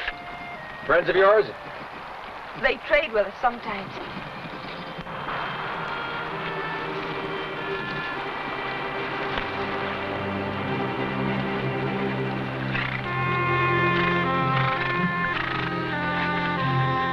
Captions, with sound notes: - Friends of yours? - They trade with us sometimes. (somber music) (horses snorting)